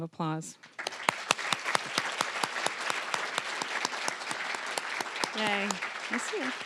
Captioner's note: applause